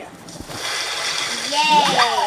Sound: water splashing

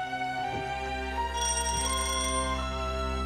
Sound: doorbell rings

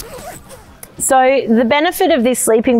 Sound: zipper sliding

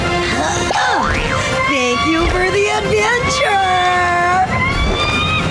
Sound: creature screeching

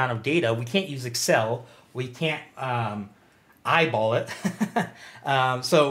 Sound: laughs loudly

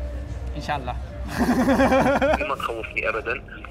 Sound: laughs

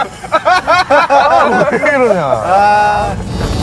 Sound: everyone is busy laughing

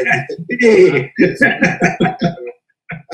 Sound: laugh

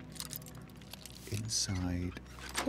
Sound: whisper

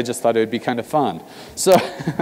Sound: laugh

